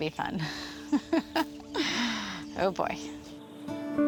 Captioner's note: laughs; bluegrass music